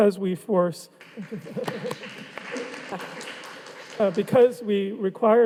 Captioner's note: audience applauding